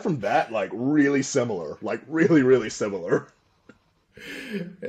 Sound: laughter

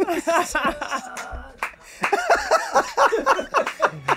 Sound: all laughing

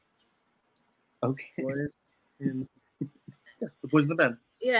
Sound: laughs

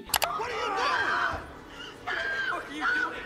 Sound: person screaming

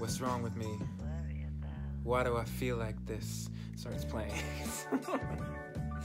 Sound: laughs

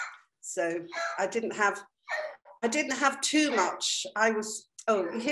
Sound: dog coughing in the background

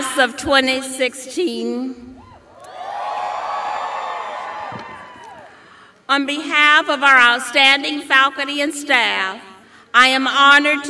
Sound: cheers and applause

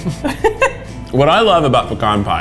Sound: laughs

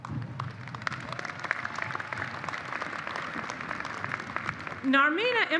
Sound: applause

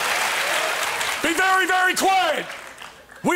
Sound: sergeant yelling

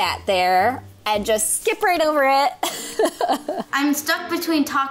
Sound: laughs

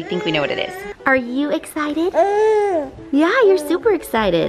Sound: baby moans softly

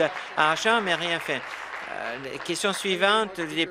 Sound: applause

